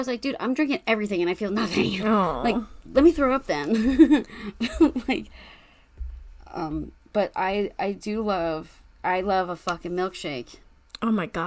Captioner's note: laughs